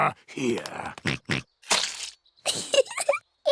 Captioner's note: oinks; giggles